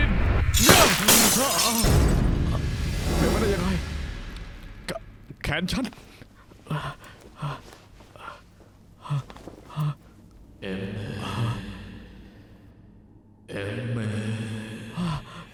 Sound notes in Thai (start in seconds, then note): 0.5 เสียงตกใจและกระจกแตก